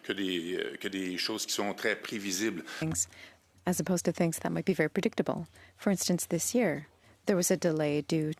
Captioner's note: speaking French